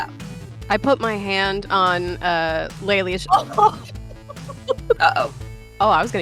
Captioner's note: laughs